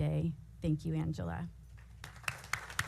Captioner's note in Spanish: aplausos